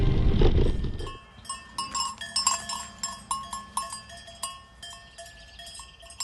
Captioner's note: goat bells